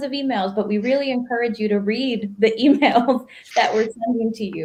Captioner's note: laughs